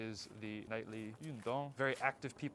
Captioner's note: Mandarin